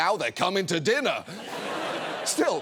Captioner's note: audience laughs